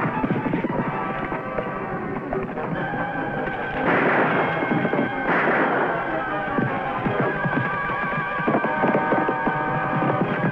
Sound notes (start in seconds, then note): 3.8 guns firing